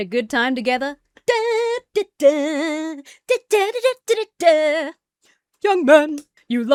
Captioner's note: hums "YMCA"